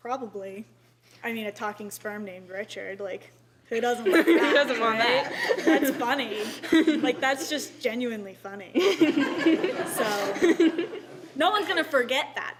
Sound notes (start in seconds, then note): 8.7 laughter